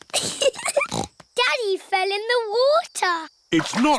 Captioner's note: giggling